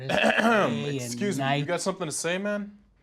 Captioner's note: clears throat